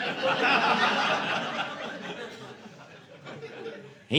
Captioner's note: audience laughing